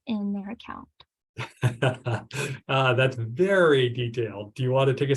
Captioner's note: laughs